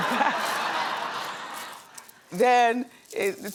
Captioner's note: audience laughs